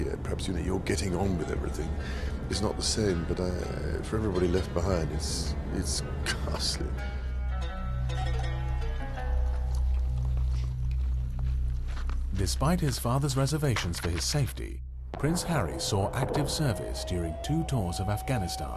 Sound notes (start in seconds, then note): 7.3 slow string music; 12.2 voiceover